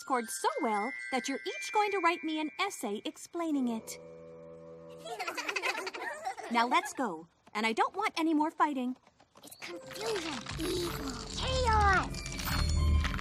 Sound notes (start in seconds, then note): 5.0 giggling